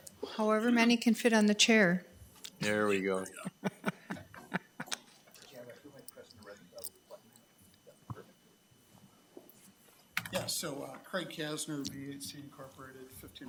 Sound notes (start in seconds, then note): 3.3 laughs